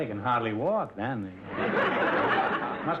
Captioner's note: audience laughter